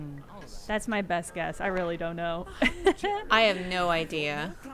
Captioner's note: laughs